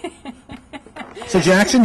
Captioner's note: laughter